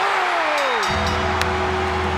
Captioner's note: audience cheers; bell rings; ominous music